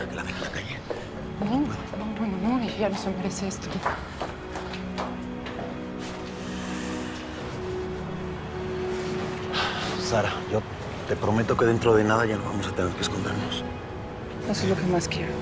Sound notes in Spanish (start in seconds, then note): 5.7 Sighs